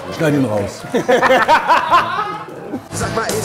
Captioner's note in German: Lachen